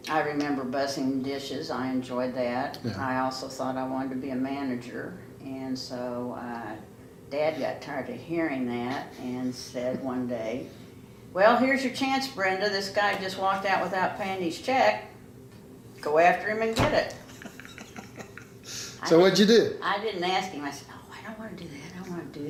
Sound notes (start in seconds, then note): 17.2 laughs